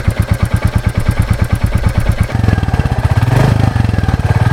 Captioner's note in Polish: dźwięk silnika